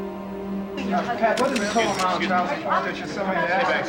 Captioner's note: people chattering